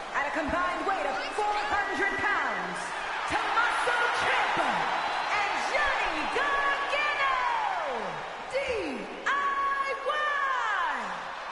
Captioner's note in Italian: Applauso